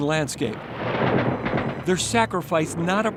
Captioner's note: guns fire